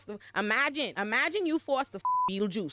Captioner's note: beep